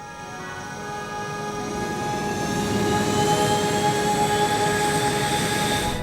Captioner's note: plane engine revving